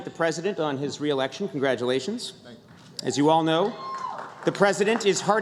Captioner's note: applause